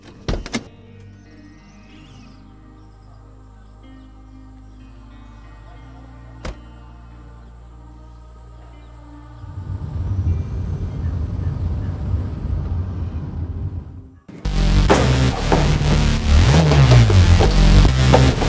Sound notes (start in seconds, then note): 0.1 Car door opens; 6.4 Car door closes; 9.6 Car drive away; 14.8 Bangs on locker